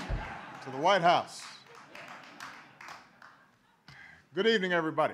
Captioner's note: applause